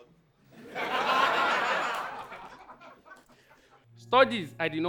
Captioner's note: audience laughs